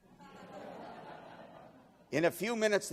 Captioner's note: laughing